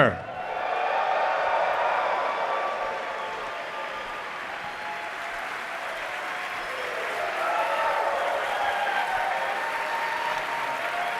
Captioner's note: cheering